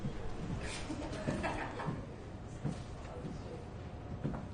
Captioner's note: chatter, laughter